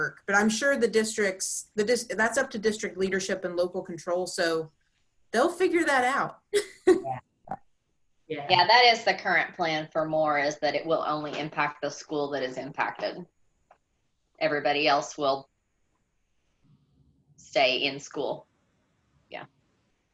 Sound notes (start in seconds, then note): 6.8 laughs